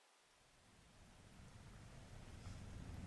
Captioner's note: none